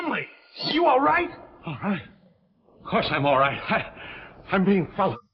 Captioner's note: Chumley gasping